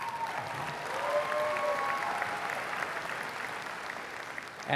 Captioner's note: applause